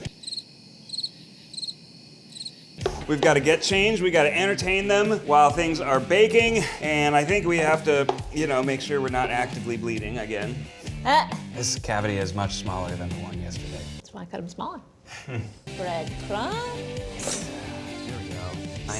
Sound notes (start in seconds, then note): 0.0 crickets chirping; 15.1 laughs